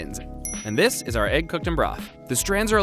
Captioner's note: dings